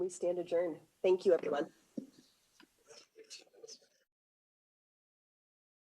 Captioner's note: gavel thudding gently